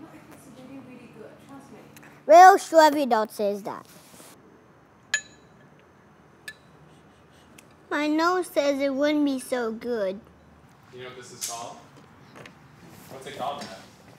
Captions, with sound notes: Almost every adult says that. (sniffs) My nose says it wouldn't be so good.